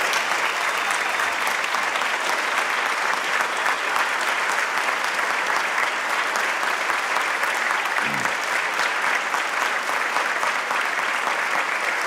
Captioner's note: applause